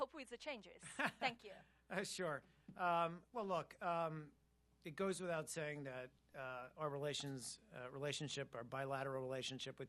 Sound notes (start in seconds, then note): 0.8 laughter